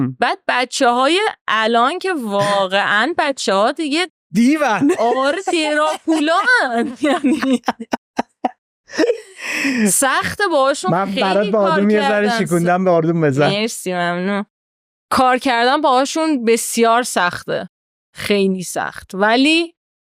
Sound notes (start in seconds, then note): 4.4 laughs